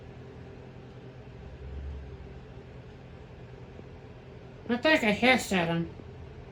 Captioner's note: none